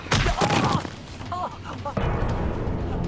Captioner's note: thud; dramatic orchestral music